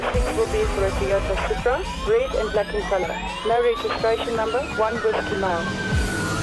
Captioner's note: over radio